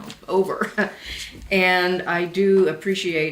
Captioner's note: laughs